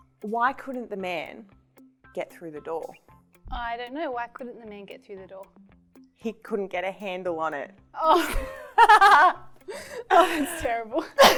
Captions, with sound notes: Why couldn't the man get through the door? - I don't know. Why couldn't the man get through the door? - He couldn't get a handle on it. (laughing) - Oh that's terrible.